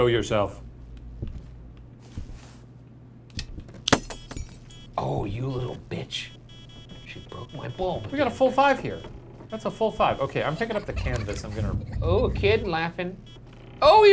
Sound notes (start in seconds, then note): 3.9 light bulb shatters; 10.5 child laughing